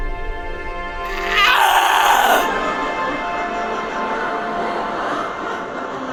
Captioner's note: woman grunting in pain